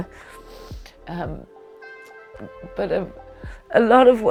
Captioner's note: sniffling